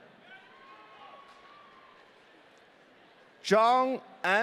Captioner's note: audience cheering